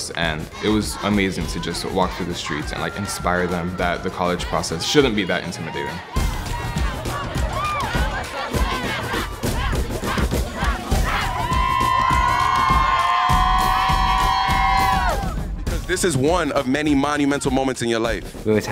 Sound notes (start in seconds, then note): 6.0 drums beating; 6.0 students cheering